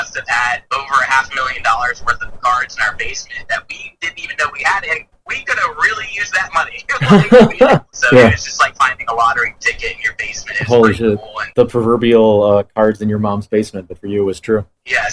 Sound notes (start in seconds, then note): 7.0 laughs